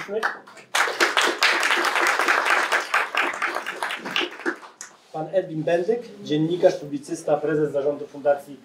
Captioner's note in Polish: Aplauz